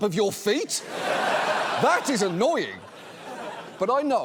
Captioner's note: audience laughs